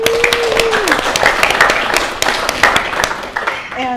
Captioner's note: applause